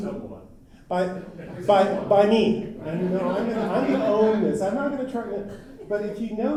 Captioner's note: laughter